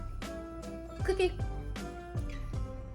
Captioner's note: hums tune while eatting